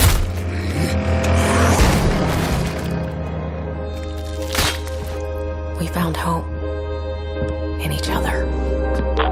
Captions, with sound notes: [zombie growling] [squelching] We found hope... in each other.